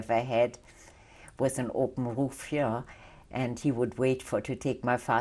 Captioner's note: non-english